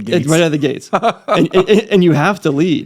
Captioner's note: laughing